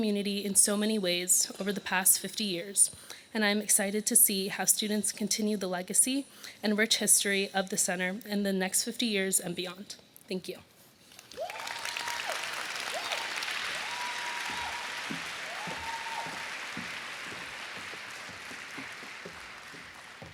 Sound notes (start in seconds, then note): 14.5 applause